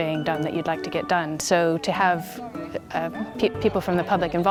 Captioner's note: people chattering